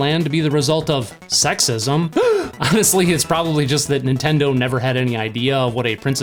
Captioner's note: gasp